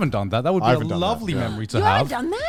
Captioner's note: men laugh